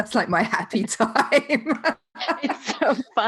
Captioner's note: laughing